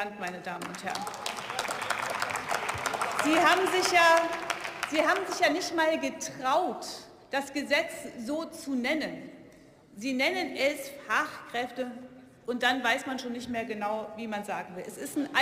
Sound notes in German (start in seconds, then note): 0.2 Beifall